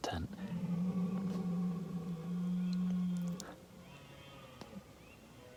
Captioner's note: red deer roaring